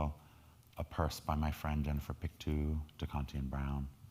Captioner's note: speaking in foreign language